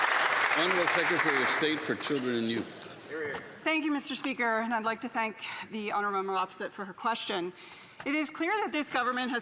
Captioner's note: applause